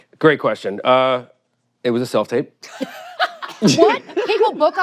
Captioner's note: all laugh